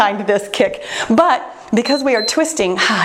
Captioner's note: timer beeps